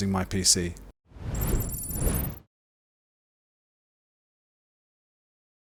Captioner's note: digital beeping